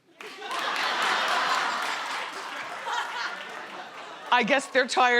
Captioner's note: crowd laughs